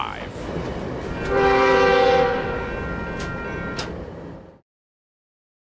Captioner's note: train horn